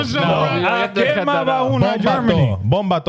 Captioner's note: speaking In Foreign Language